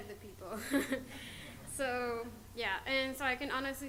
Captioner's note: audience laughter